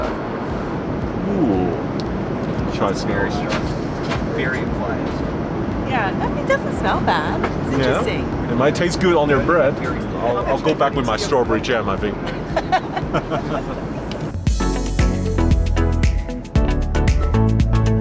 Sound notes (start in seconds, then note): 12.2 both chuckle lightly; 14.0 upbeat music echoes